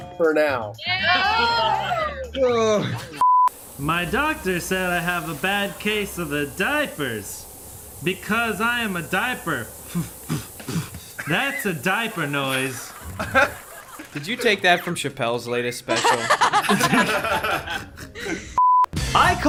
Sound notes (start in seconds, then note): 10.0 makes lip smacking noise; 12.0 group laughs; 15.9 group laughs